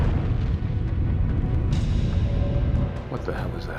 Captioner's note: explosion